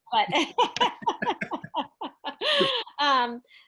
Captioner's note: laughs